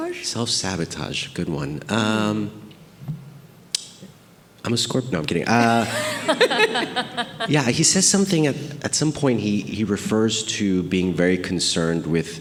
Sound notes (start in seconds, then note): 5.5 group laughing